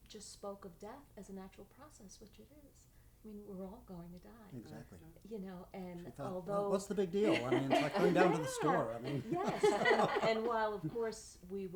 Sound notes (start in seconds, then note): 7.2 laughing